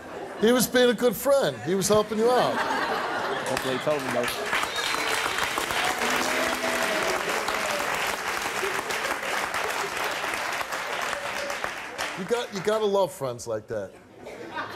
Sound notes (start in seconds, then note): 4.8 applauding